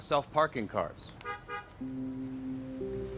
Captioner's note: horn honks